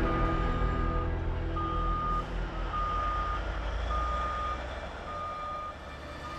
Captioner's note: gentle music; machinery beeps